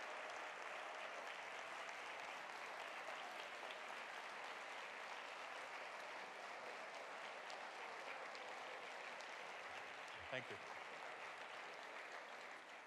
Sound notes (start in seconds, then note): 0.9 audience applauds